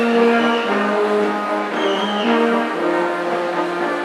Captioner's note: attendee whistling